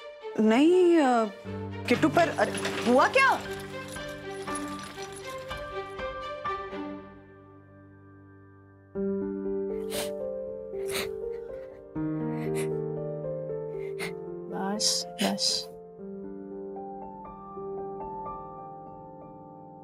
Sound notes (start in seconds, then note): 9.8 sniffles